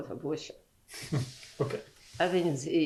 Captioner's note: laughs